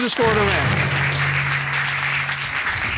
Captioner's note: applause